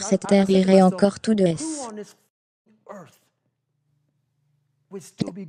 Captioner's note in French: le silence